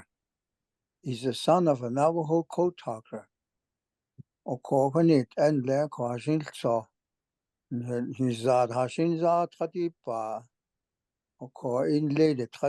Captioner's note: speaking Navajo